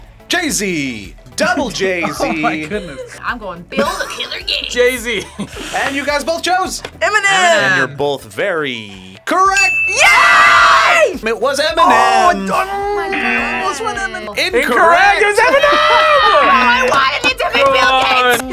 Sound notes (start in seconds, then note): 5.3 laughs; 9.5 bell rings